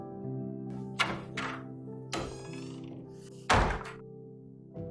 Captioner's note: the door creaks shut